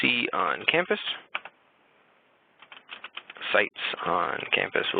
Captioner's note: typing